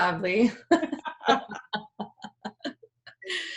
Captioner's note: laughing loudly